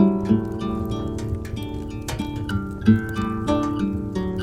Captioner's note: fire crackling